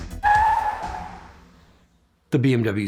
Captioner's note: tires screeching